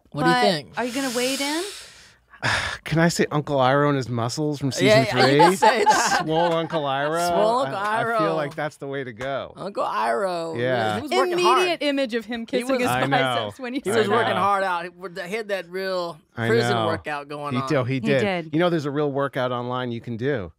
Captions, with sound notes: But are you gonna wade in? [sighs] Can I say Uncle Iroh and his muscles from season three? -[they laugh] -Swole Uncle Iroh. I feel like that's the way to go. -Uncle Iroh! -Yeah. Immediate image of him kissing his biceps! He was working hard. He had that prison workout going on. He did. You know there's a workout online you can do?